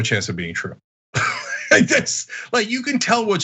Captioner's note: laugh